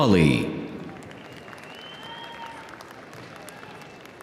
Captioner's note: audience cheering